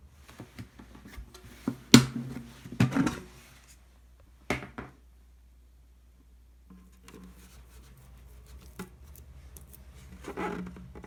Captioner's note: folding